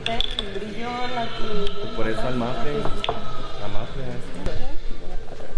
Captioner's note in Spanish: voces